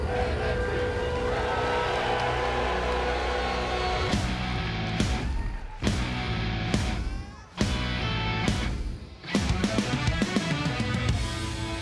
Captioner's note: fans chanting